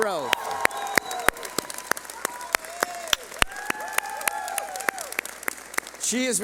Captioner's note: clapping